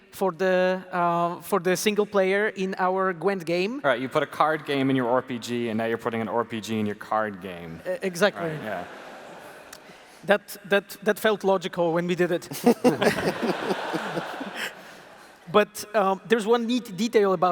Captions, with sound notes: for the single player in our Gwent game. You put a card game in your RPG, and now you are putting an RPG in your card game. Exactly. That felt logical when we did it. (Laughter) But there is one neat detail about it.